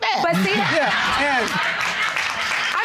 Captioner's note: audience laughing